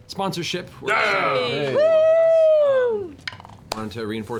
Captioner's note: cheering